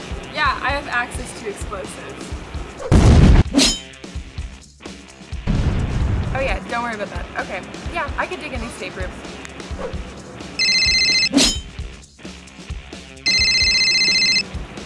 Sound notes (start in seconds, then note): 3.0 explosion in background; 10.7 phone rings